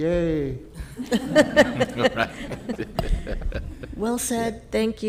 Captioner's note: all laughing